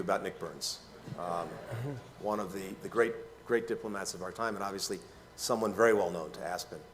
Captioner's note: laughter